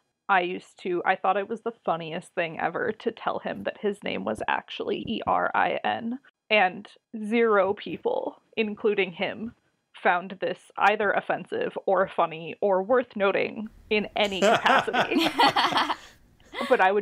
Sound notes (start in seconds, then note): 14.2 laugh